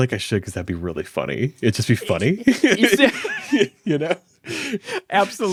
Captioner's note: laughs